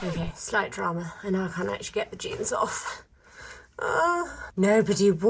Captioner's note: groans